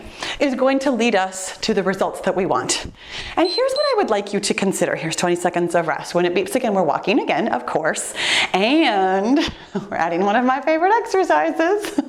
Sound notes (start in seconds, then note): 3.3 timer beeps; 11.8 giggling